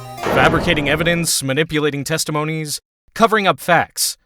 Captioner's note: none